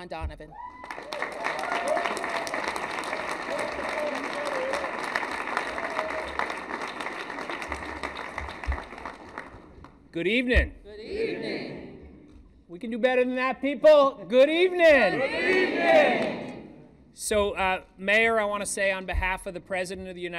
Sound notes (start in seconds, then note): 5.0 applause